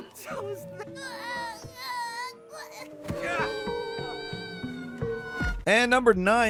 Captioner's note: Cutie grunting and screaming